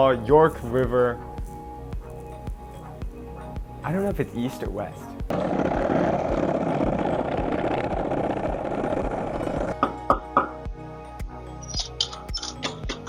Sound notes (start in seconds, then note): 5.3 wheels rolling; 9.5 knocking